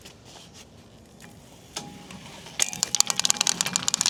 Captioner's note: wheels rattle